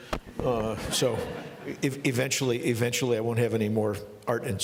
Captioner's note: laughing